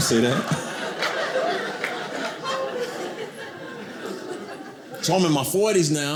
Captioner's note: audience laughing